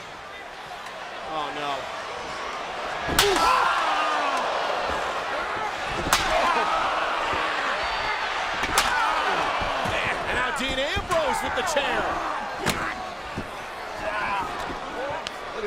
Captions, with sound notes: Oh no. (crowd cheering) (chair banging) Now Dean Ambrose with the chair!